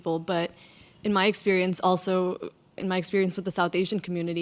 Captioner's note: none